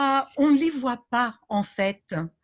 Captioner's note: speaking French